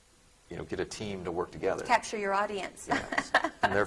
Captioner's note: chuckling